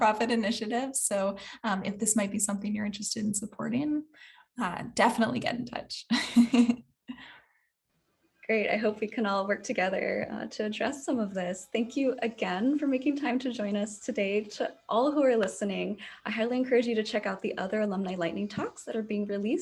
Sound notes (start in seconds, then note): 6.1 chuckles